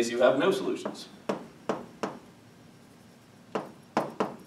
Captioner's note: chalk tapping